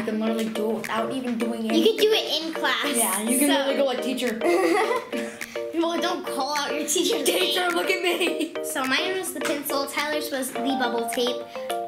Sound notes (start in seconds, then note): 7.8 laughs